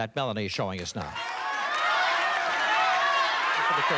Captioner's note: cheers and applause